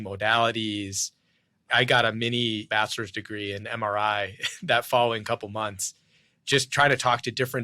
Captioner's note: laughs